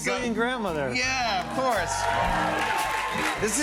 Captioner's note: cheers and applause